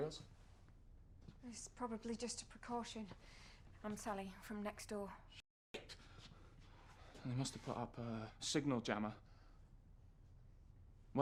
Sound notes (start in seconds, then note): none